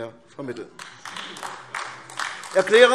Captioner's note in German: Beifall AfD